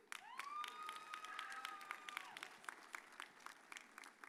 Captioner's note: audience cheers